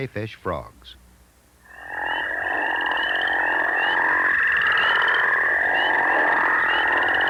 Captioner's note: crayfish frog call